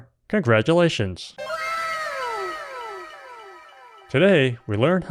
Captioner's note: anime "wow!" sound effect